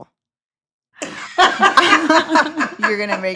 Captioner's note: all laughing